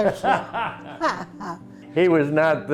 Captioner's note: laughter